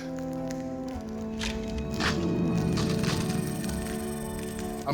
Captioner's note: eggs cracking